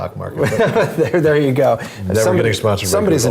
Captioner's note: laugh